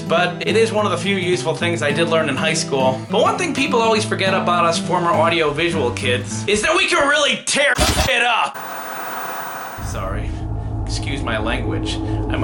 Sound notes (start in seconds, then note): 8.5 beep